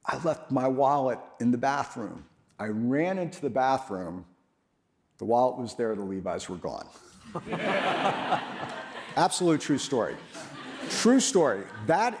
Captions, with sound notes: I left my wallet in the bathroom. I ran into the bathroom, the wallet was there, the Levi's were gone. (audience laughs) absolutely true story. True story.